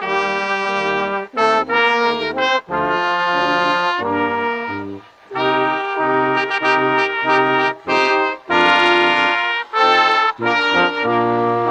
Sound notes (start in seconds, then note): none